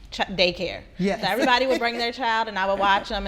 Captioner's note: laughing